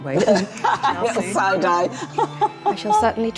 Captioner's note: laughing